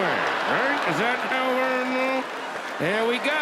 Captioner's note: audience laughs